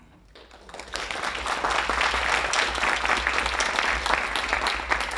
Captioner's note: audience applauding